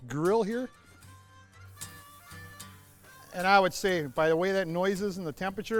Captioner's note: sizzle